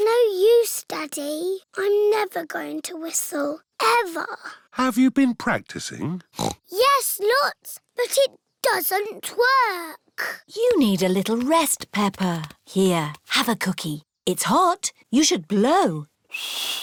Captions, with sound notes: It's no use, Daddy. I'm never going to whistle. Ever. Have you been practicing? (SNORTS) Yes, lots, but it doesn't work! You need a little rest, Peppa. Here, have a cookie. It's hot, you should blow.